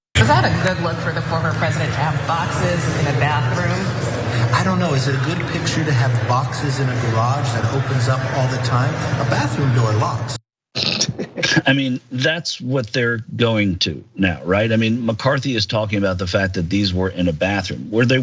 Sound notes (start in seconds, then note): 10.8 laugh